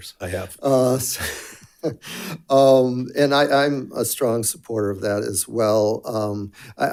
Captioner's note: laughs